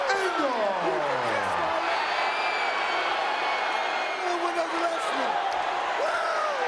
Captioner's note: audience cheering and clapping